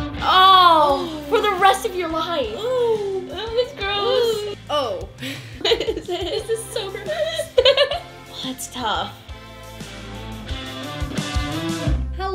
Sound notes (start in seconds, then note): 0.0 upbeat music; 5.2 laughter; 9.1 upbeat music